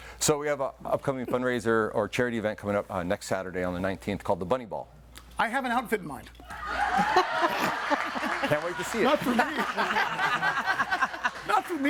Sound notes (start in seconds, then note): 6.6 audience laughing; 10.2 all laughing